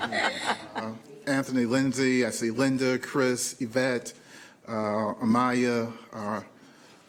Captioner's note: laughter